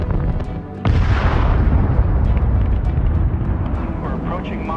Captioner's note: loud blast